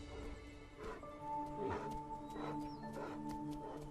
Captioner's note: bear huffs